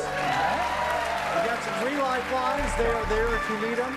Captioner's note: cheers and applause